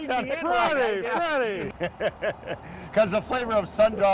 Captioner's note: chuckling